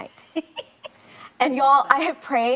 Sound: chuckles

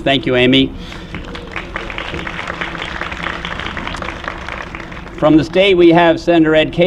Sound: applause

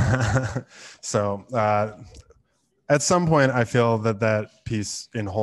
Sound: laughs

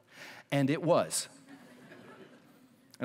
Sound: laughter

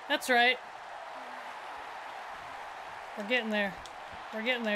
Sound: applause

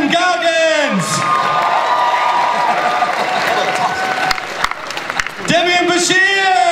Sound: audience cheering

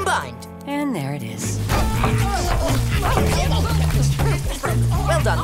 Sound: family groaning

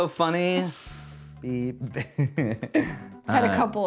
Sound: chuckles

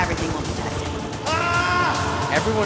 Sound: yelling

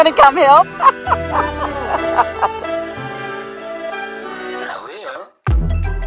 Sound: laughing

